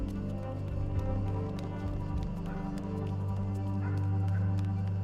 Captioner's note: hurried footsteps pattering